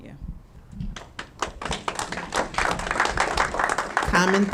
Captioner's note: audience clapping